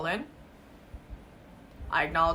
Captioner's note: silence